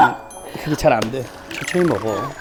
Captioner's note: holler